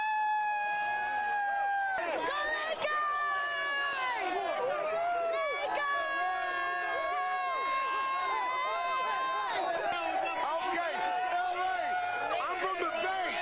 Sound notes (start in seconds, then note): 2.3 cheering & applause